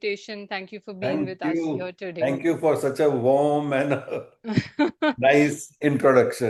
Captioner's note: laughter